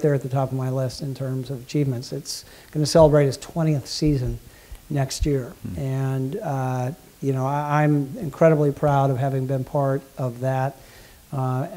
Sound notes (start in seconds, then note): none